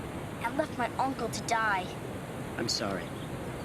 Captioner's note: none